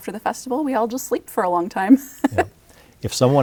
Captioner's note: laughs